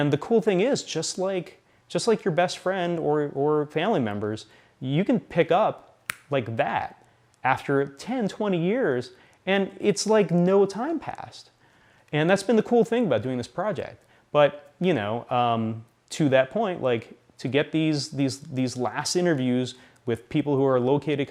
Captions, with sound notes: And the cool thing is, just like your best friend of family members, you can pick up [snaps] like that after 10, 20 years, and it's like no time passed. And that's been the cool thing about doing this project. But, you know, to that point, to get these last interviews with people who are located